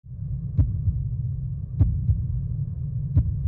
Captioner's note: heart beating